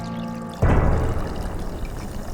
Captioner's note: wine pouring